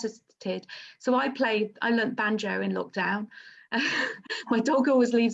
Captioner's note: laughs